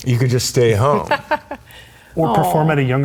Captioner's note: laughs